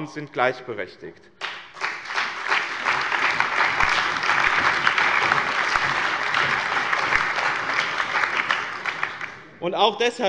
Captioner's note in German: Lebhafter allgemeiner Beifall